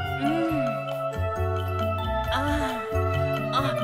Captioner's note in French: Il fait "hmmm", "ahhh" sensuellement